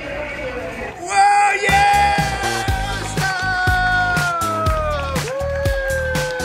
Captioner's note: all cheer